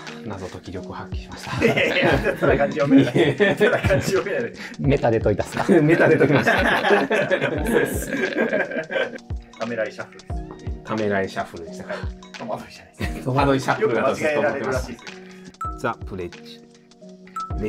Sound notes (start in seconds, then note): 4.2 laughing